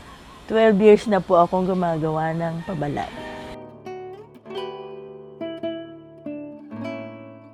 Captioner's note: none